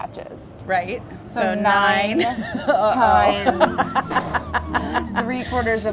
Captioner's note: laughter